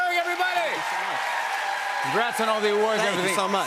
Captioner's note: cheers and applause